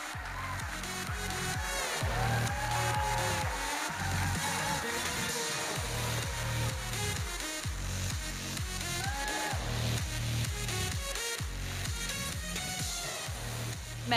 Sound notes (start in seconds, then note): 0.0 audience cheering and applauding; 5.8 electronic dance music; 8.5 audience cheers